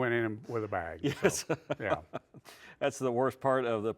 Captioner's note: laughs